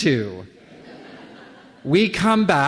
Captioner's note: laughter